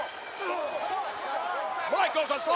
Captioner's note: both grunt